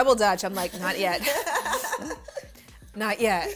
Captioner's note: laughter